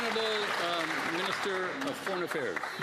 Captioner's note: cheers & Applause